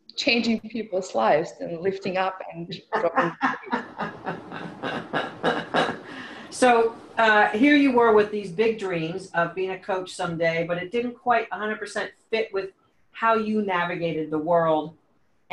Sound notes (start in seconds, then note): 2.6 laughs